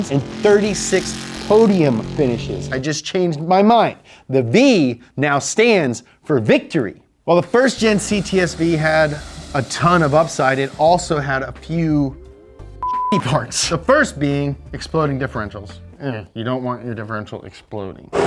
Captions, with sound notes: and 36 podium finishes. I just changed my mind. The V now stands for victory. Well the first gen CTS-V had a ton of upside, it also had a few (beep). The first being exploding differentials. You don't want a differential exploding.